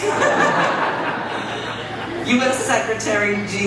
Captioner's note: audience laughs